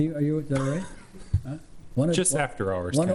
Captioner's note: laughs